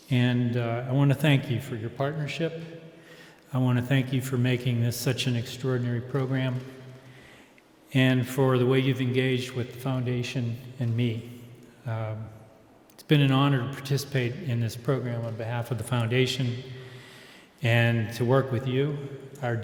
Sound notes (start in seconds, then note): none